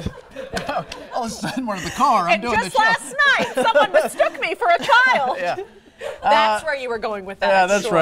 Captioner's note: laughter